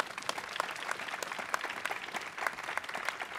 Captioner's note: applause